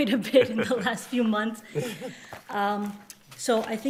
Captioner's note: chuckling